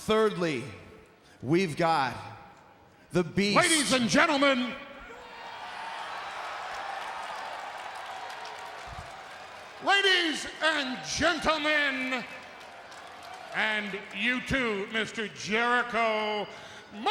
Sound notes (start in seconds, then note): 5.9 crowd cheers